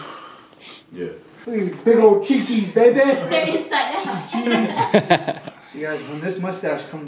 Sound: laughs

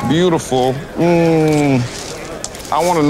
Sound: smacks lips

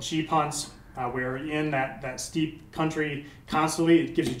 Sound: smack

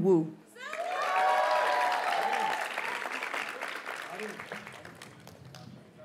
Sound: audience cheers and applauds

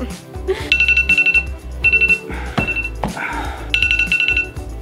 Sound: alarm chimes

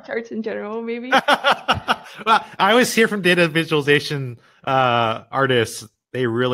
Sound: laughs

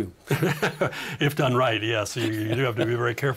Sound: laughing

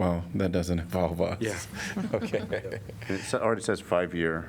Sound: laughter

